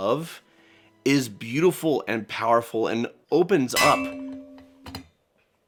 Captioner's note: ding